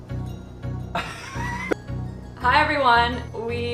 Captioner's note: laughing